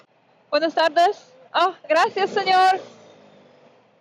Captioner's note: in Spanish